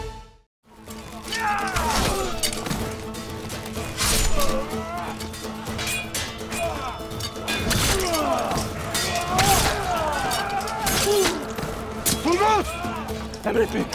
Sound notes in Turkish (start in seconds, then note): 1.0 Dövüşme sesleri; 9.2 Bağırma sesi